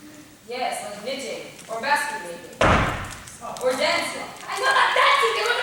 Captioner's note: PAOLO stomps